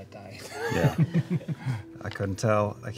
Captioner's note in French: rires